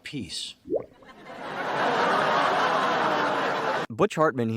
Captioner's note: laugh track